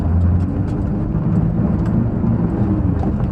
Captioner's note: engine noise